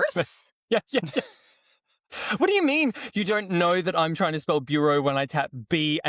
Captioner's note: laughs